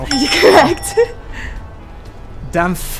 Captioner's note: bell rings